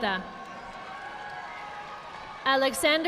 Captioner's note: audience applauding